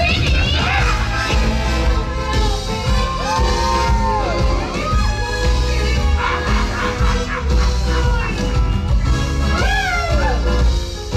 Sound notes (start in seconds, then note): 1.3 laughs; 5.8 Oogie Boogie Laughs